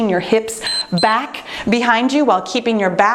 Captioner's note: timer beeps